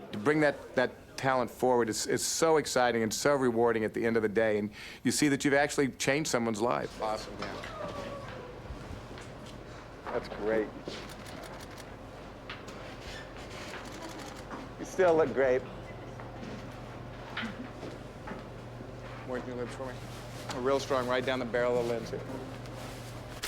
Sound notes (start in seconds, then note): 11.0 camera clicking